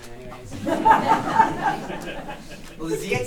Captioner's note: audience laughs